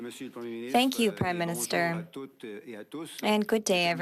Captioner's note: speaking French